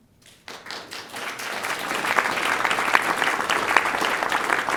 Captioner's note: applauding